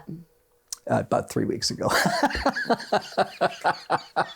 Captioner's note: laughs